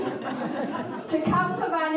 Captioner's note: audience laughing